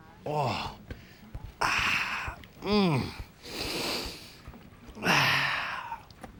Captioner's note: sighing contentedly